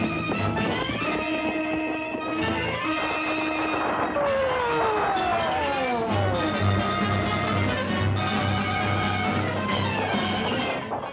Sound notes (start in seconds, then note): 3.6 siren wails; 6.7 tense dramatic music continues